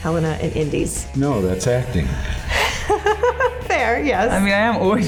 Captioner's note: laughs